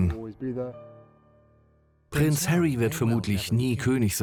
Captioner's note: voiceover